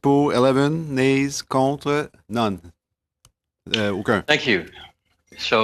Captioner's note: speaking French